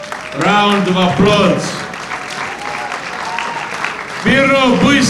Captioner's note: audience applauds